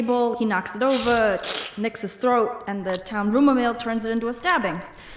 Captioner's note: imitates cutting sound